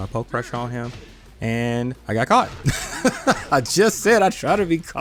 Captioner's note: laughs